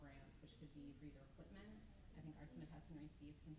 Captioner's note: stammers